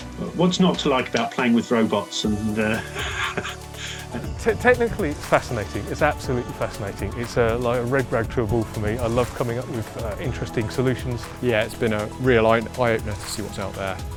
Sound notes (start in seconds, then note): 2.6 laughs